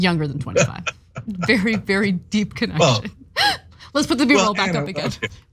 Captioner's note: laugh